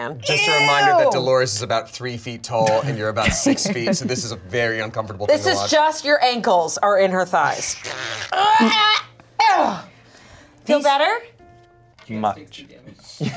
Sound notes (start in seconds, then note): 7.8 groans